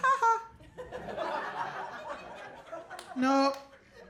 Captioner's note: audience laughing